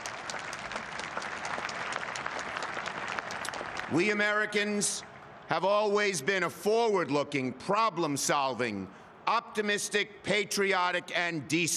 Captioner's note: applause; cheering